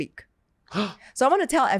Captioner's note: gasps